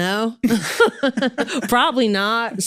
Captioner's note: both laughing